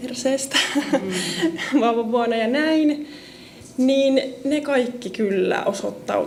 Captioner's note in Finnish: naurua